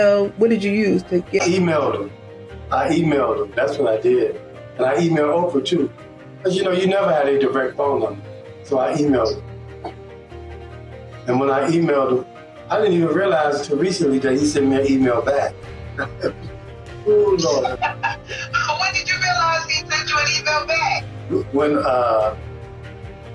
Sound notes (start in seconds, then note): 17.1 laughs; 17.1 laughs in background